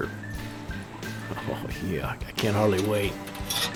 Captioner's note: chuckles